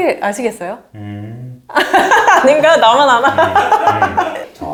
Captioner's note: mmm…